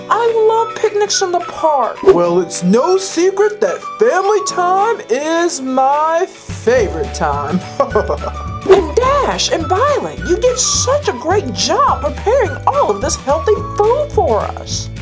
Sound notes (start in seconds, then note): 7.5 laughs